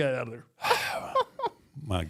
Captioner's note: Michelle laughs